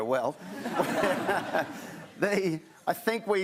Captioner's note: laughter